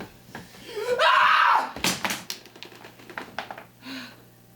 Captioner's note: screams